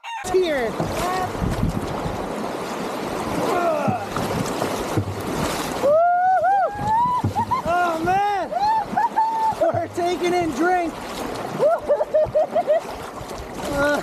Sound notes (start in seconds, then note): 6.6 both whooping and laughing